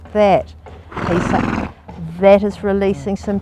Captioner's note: horse snorting